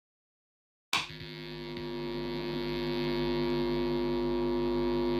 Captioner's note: light buzzes